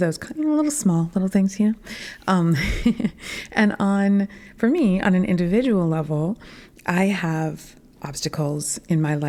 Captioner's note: laughter